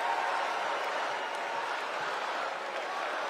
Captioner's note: cheers and applause